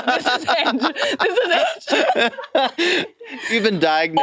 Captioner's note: participants laughing